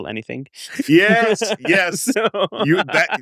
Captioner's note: laughs